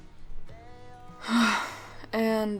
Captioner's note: sighs